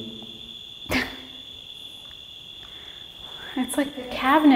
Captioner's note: laughs